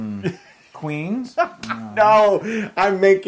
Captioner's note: laugh